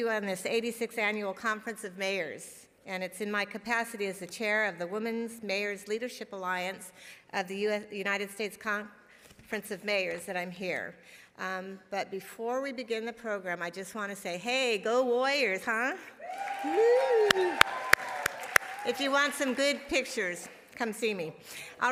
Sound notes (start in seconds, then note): 16.2 audience applauding and cheering; 16.2 applauding and cheering